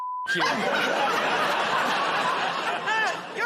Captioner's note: laughter